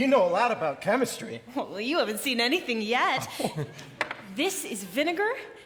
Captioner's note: Tin Man laughs